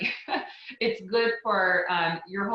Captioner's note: laughs